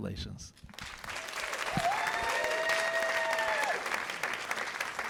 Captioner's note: cheers and applause